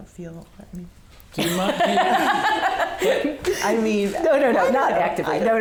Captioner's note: laughing